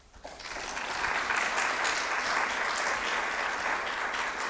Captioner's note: audience applauding